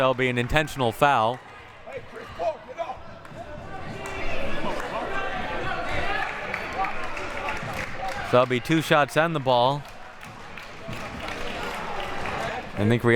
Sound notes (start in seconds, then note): 4.5 audience chattering and yelling